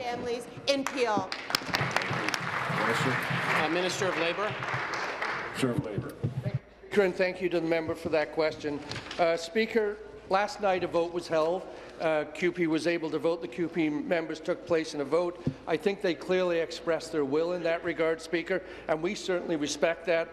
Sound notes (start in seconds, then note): 4.8 applause